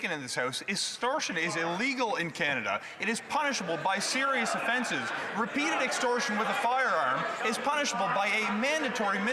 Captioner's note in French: voix de l'interprète